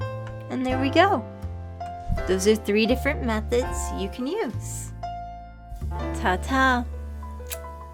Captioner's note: kiss